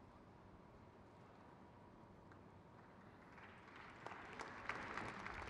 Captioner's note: crowd cheers